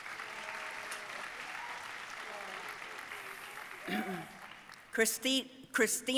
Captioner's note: audience cheering and applauding